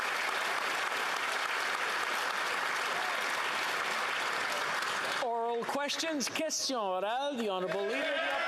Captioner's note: applause